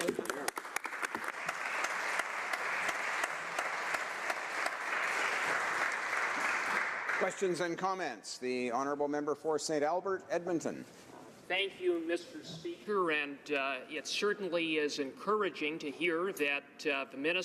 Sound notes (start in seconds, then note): 5.1 applause